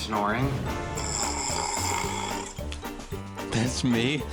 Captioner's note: snoring